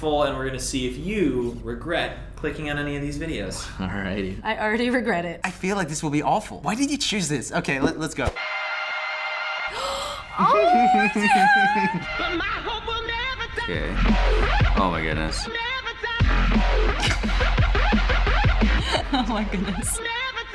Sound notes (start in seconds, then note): 9.7 gasps; 10.3 chuckles; 13.6 dubstep music; 17.0 chuckles